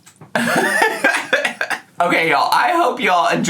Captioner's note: laughing